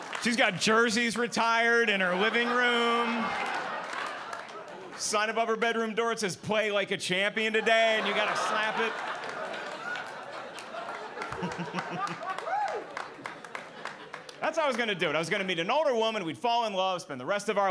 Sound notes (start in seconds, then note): 1.9 audience laughing; 7.4 audience laughing; 11.2 giggling